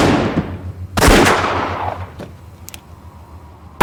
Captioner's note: gunfire